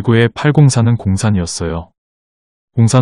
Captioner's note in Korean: 꿩산의 경상도 발음